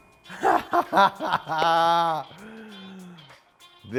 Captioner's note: laughs